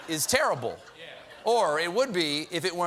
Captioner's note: laughter